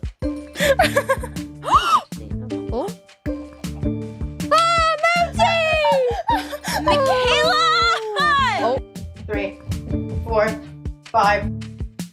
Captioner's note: laughter